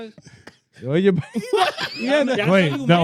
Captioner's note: all Laughing